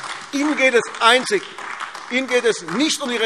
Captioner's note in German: Beifall AfD